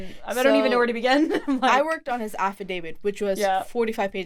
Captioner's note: chuckles